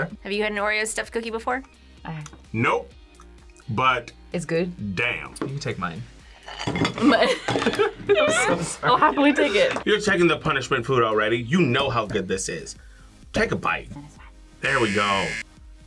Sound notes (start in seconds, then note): 6.8 both laugh